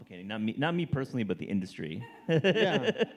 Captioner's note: laughs